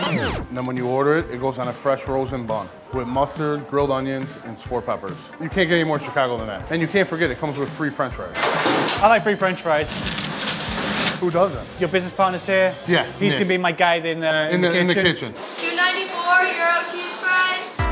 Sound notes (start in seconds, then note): 10.1 french fries rustling